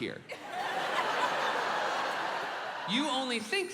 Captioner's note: audience laughing